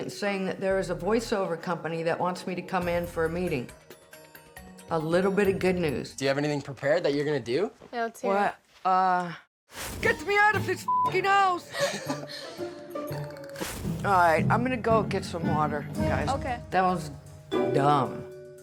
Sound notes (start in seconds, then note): 11.7 laughter